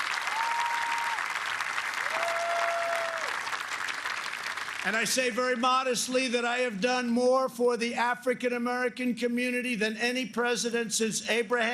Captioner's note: applause